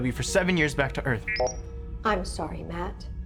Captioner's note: computer beeps